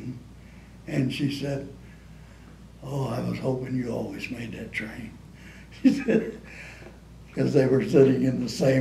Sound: laughs

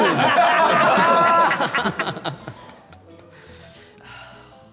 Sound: all laughing

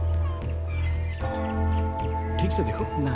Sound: church Bell

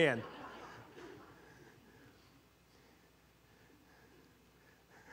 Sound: congregation laughing

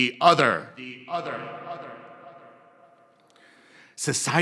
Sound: "The Other" echoing

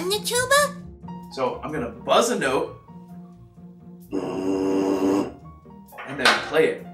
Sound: buzzes into mouthpiece

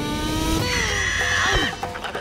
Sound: squealing

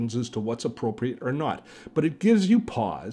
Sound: none

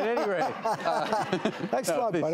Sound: laughter

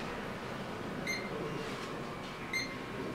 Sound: beeps

